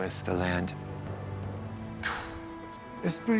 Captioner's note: exhales